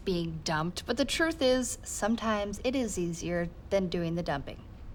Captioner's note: none